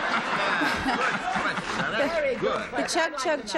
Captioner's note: laughter